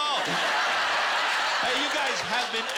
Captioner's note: laughter